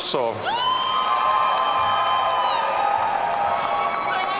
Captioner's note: audience cheering